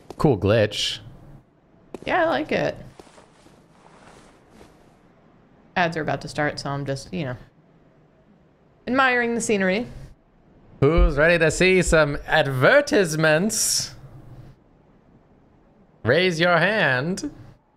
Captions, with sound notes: Cool glitch. Yeah, I like it. Ads are about to start, so I'm just, you know, admiring the scenery. (old timey voice) "Who's ready to see some advertisements?" "Raise your hand."